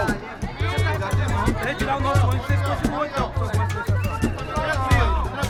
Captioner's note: indistinct chatter